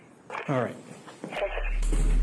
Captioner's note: radio chatter